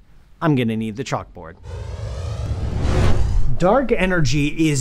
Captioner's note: air whooshes